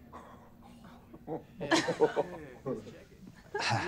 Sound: laughter

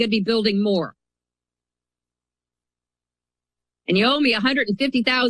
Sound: pause

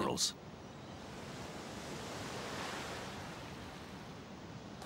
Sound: waves lapping

